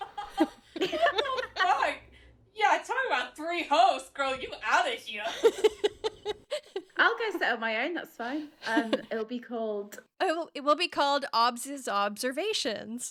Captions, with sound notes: (laughing) - What the fuck? Yeah, talk about three hosts, girl. You outta here. (laughing) - I'll go set up my own, that's fine. It will be called. - It will be called Obvs' Observations,